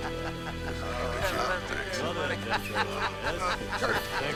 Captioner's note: overlapping chattering